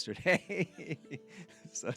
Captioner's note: laughs